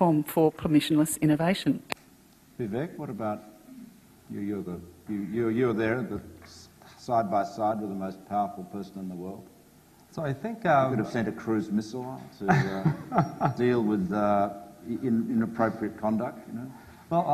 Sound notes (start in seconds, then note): 12.4 laughs